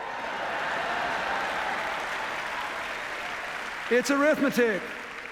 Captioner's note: laughter, applause